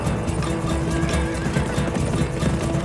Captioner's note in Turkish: At nalı sesleri